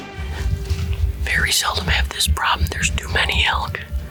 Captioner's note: whispers